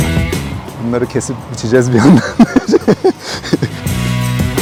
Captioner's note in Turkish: Gülüşmeler